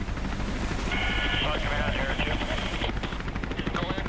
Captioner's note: helicopter blades chop air